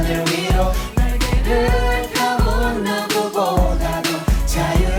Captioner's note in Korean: 흥얼흥얼